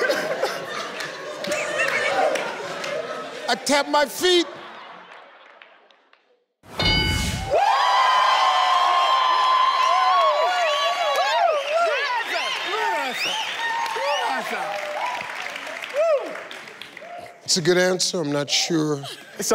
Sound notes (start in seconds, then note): 6.7 dings; 16.0 people woo